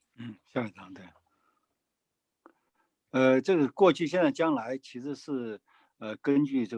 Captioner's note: speaking in foreign language